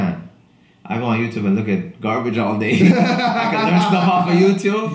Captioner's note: laughs